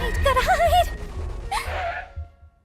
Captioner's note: gasps